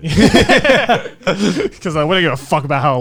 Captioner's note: men laugh